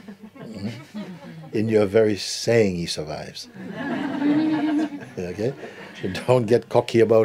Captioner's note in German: Lachen; Lachen